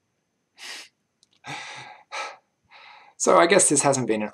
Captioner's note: laughs